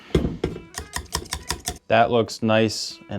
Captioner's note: soft music; spoon bangs